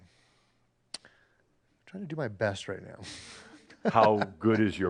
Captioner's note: he chuckles